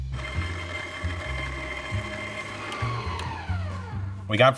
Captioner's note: mixers whir vigorously; jazz music continues